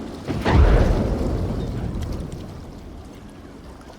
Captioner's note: water splashing; water flowing